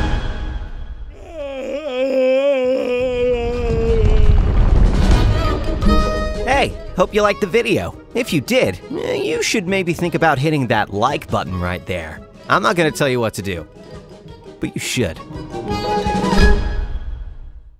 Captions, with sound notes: [Villager screaming] - Hey! Hope you liked the video. If you did, ehh-- you should maybe think about hitting that like button, right there! I'm not gonna' tell you what to do-- but you should.